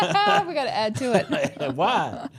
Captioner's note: group laughs